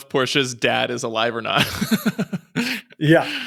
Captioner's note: laughs